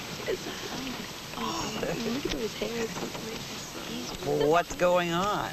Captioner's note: girls chattering